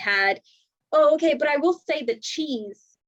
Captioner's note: none